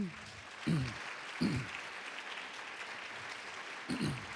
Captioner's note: applause